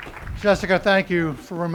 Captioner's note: cheering and applause